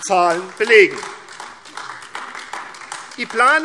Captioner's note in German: Beifall AfD